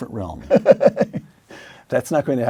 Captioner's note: laugh